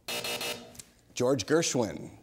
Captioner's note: buzzer